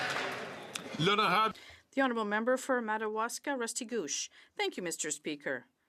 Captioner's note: some Applause